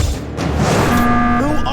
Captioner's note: anime "hold on a second" sound; Among Us Emergency Meeting Sound